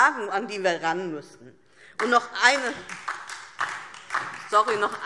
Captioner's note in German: Beifall DIE LINKE und vereinzelt SPD